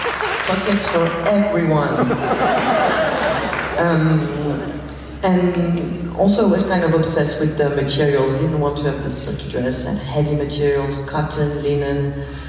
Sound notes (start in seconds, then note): 1.9 laughs